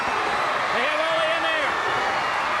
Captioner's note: crowd cheering